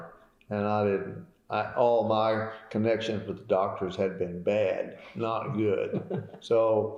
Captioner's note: laughter